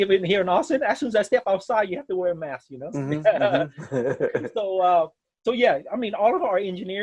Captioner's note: laughs